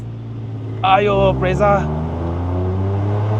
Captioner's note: brakes suddenly